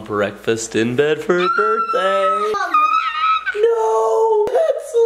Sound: screams

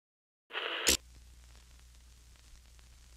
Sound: TV static

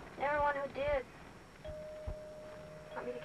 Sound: bell dings

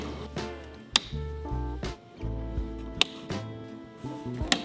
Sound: light switch clicks; light switch clicks

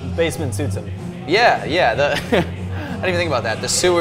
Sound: laughs

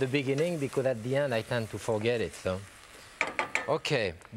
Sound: spoon dinging

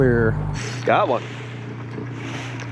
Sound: reel cranking

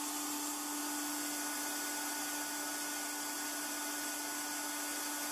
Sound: buzzing noise from the airbrasive cleaning unit

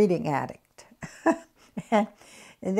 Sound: laughs

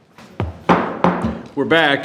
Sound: gavel bangs

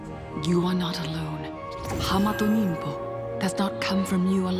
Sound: none

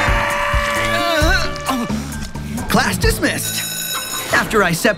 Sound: air-horn blaring

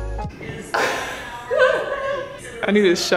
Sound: laughing

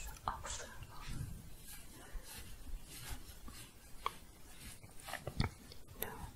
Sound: scratching and shuffling

